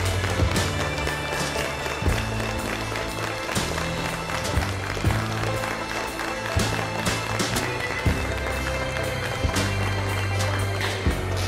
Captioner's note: crowd noise